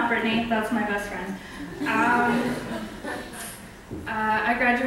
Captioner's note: audience laughs